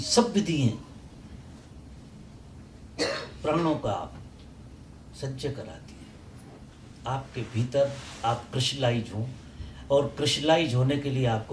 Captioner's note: breath